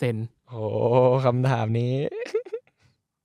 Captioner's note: laugh